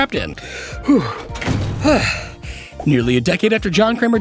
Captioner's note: breathing